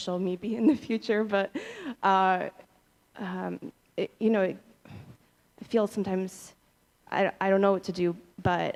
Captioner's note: laughter